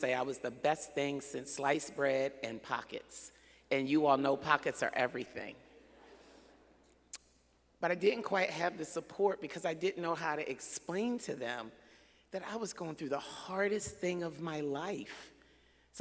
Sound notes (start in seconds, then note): none